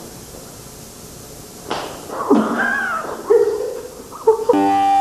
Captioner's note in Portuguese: risos